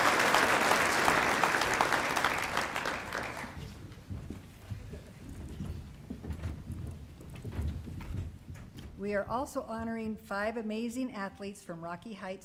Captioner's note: applause